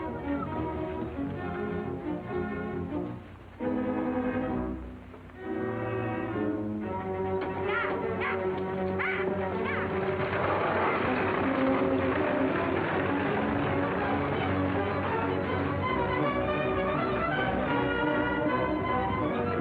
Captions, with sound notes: - I will. (intense music) - Yah! Yah! Yah, yah! (wagon creaking) (horses galloping) (intense music)